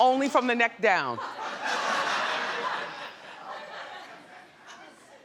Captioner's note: audience laughs